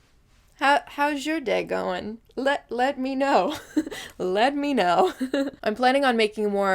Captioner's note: giggles; giggles again